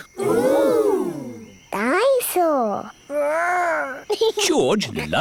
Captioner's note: giggles